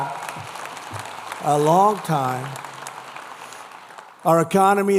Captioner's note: applause